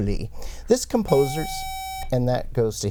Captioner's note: buzzer